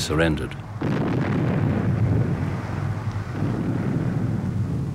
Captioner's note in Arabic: انفجار قنابل